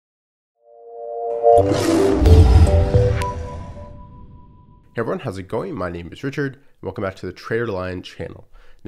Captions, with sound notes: (opening music) (lion roars) - Hey, everyone. How's it going? My name is Richard. And welcome back to the TraderLion channel.